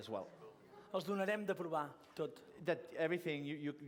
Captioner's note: non-english speech